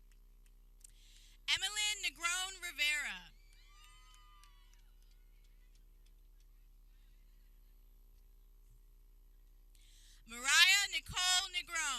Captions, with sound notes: Emilynn Negron Rivera (people cheering) Mariah Nicole Negron